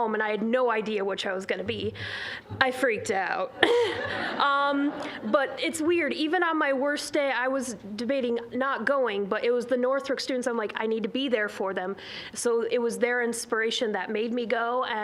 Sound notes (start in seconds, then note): 3.5 all laughing